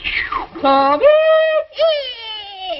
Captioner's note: jeers